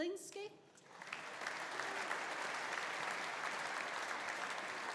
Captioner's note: audience applauding